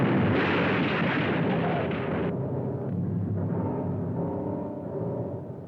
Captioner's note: car crashing; ominous music